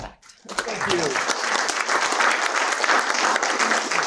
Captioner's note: applause